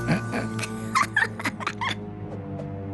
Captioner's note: chuckle; giggle